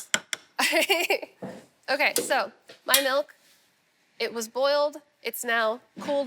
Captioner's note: laughs